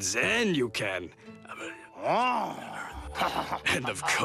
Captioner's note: whispering